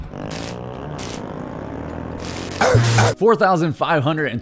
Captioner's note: motorcycle engine roaring